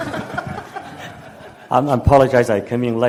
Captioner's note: audience laughs